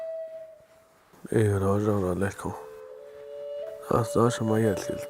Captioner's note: speaking Navajo